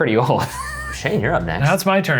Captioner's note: laughing